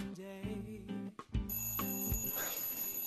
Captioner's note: alarm ringing